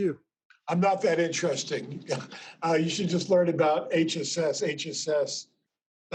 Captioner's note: laughs